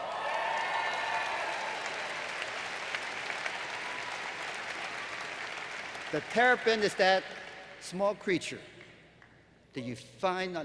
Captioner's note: applause